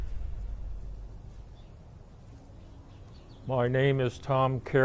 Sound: birds chirping

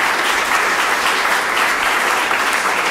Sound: applause

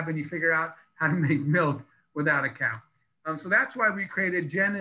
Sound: laughs

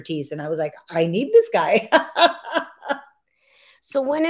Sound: laughs

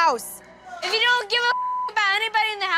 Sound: beep

